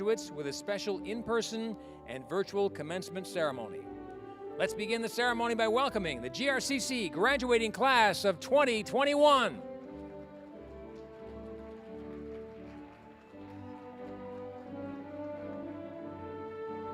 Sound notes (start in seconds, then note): 9.7 applause